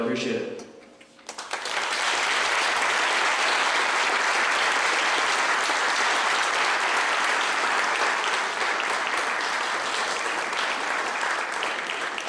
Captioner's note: clapping